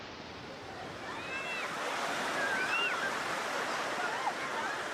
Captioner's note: crowd chattering